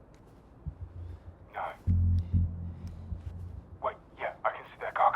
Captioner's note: man On Radio